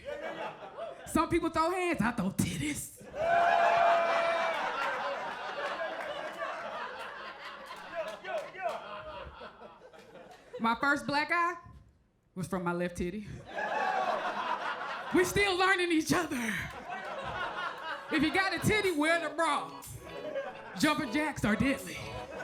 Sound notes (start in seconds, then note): 0.0 crowd laughs; 3.0 crowd cheers; 3.0 crowd laughs; 13.6 crowd laughs; 16.8 crowd laughs; 22.2 crowd laughs; 22.2 gentle instrumental music